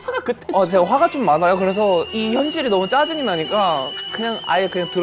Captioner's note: boiling